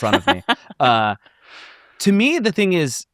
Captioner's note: laughs